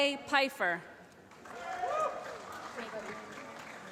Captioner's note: applause